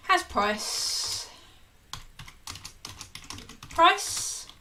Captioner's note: keyboard clicking